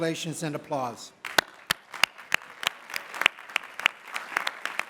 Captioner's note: applause